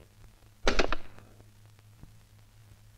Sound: receiver hang up

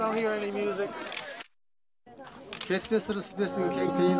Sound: camera flashes; speaking foreign language

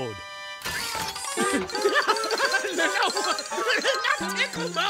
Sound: laughing

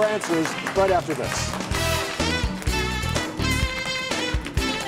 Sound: audience clapping

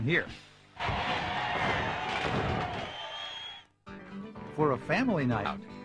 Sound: people cheering

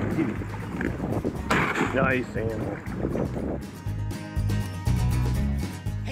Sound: gunshot

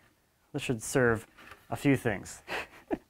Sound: chuckles

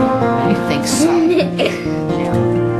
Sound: laughs

